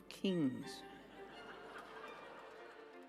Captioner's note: laughter